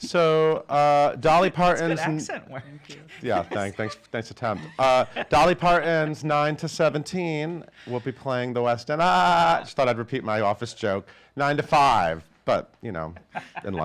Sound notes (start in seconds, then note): 1.8 chuckles; 4.5 chuckles; 9.3 laughs; 13.0 laughs